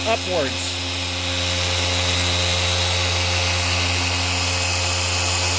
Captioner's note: buffer loudly whirring